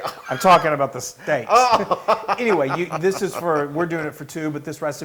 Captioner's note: laugh